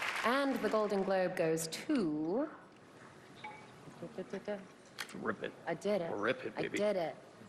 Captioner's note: applause